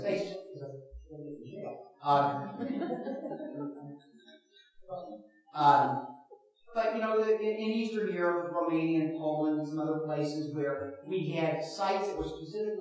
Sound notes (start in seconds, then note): 2.2 chuckles in audience